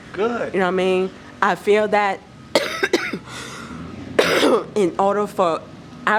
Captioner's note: coughing